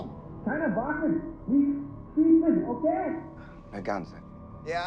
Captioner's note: Sinclair speaking in foreign language; Fritz speaking in foreign language